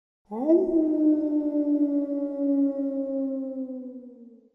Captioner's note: wolf howling